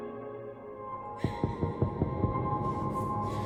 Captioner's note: distant door knock echoes